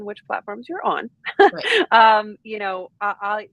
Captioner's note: chuckles